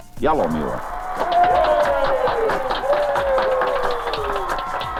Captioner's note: cheering and applause